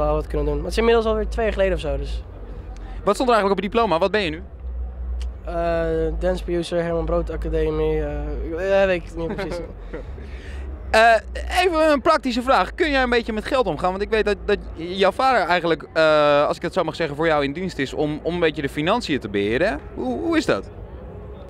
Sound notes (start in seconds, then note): 9.2 laughing